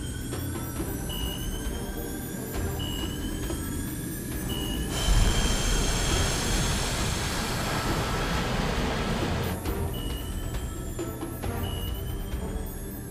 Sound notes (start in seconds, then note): 5.0 airplane rumbling; 9.8 radar chiming